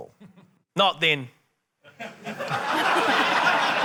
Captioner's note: laughter